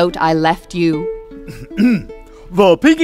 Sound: coughs

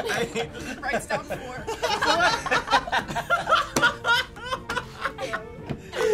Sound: all laughs

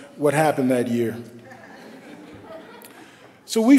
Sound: laughter

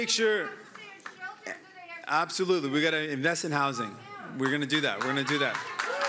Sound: cheering and Applause

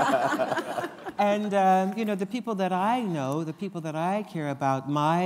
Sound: laughter

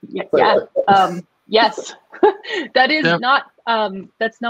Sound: giggles

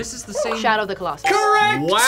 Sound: buzzer barks

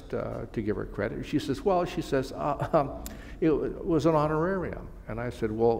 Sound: chuckle

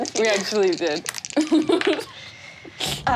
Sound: laughs

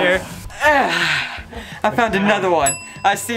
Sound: sighing

